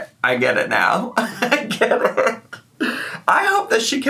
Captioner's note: laughing